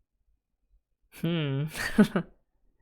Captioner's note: laughs